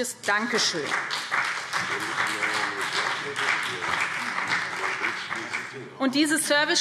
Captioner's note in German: Beifall BÜNDNIS 90/DIE GRÜNEN und CDU